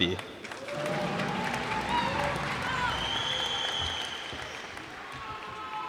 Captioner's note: cheers and applause